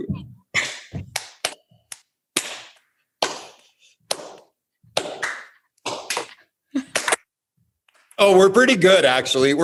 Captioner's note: clapping